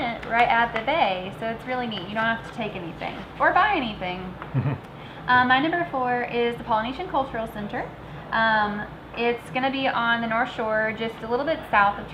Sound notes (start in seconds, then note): 4.5 giggling